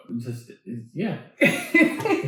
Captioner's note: laughing